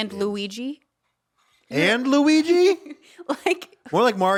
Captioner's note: laughing